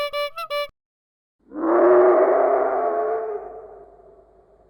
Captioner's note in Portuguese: Barulho do Dragão